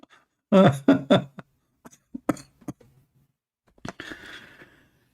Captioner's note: Ketawa